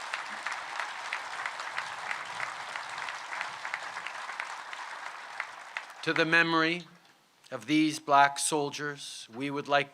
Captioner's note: applause